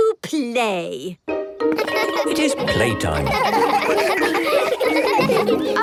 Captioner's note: laughter